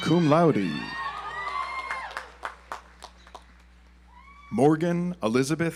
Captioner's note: audience applauds